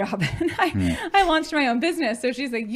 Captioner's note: chuckling